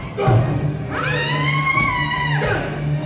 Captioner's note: screams